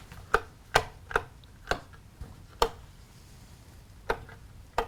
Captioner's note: light switch clicks